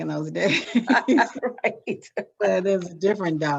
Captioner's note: both laughing